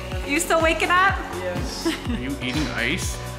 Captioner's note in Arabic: أمي تضحك